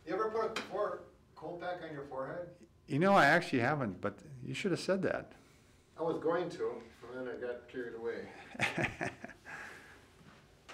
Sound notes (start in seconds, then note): 8.3 chuckling